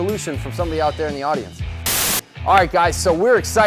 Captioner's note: static